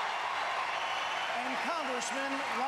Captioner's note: applause